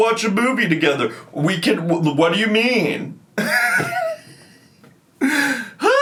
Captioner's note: laughs